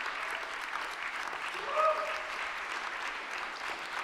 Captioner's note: audience applauding